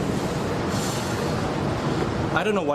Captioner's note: exhales